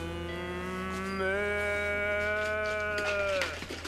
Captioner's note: mooing like a cow